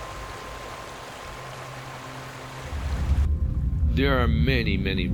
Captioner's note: water running